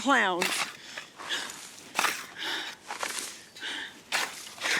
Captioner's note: breathing heavily